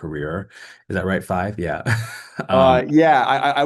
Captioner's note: chuckles